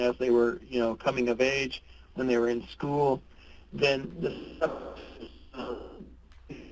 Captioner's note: audio distortion